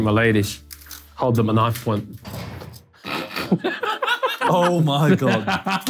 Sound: laughs

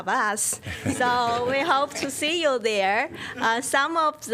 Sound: laughter

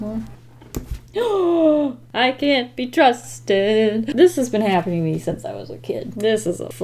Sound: gasps

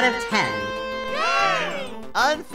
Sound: team 3 cheers

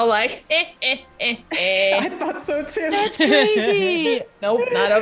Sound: laugh

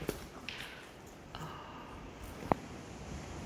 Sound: gasp

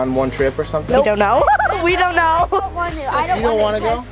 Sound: laughter

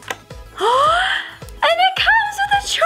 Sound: gasp

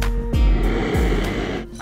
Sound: roars

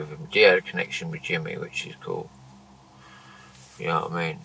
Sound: none

